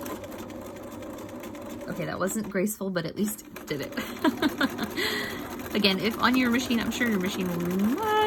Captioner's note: chuckles